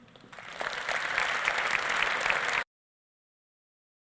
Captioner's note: audience applauds